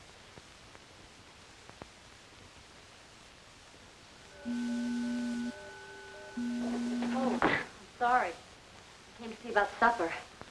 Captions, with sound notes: (door beeping) - Oh, sorry. I came to see about supper.